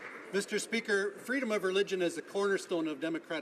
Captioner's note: some Applause